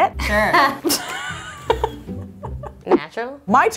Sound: laughing

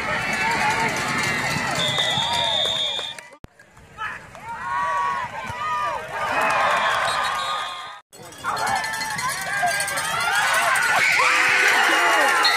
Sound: applause

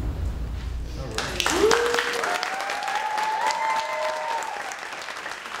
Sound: cheering and applauding

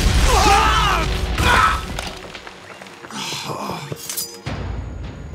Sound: grunts

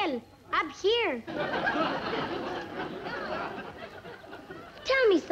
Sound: audience laugh

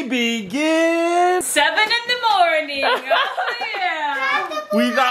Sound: dad laughs

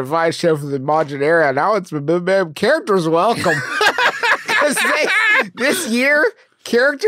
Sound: laughs

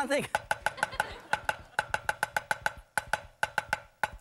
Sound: rhythmic tapping

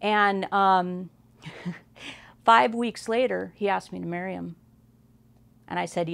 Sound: laughs

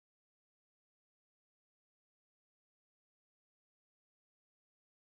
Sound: none

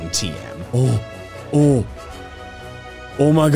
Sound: gasping in excitement

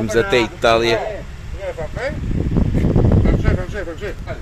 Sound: speaking Spanish

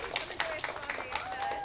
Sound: applause

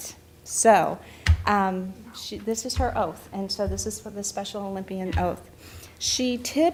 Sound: none

